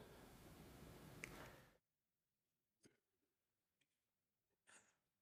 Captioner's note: click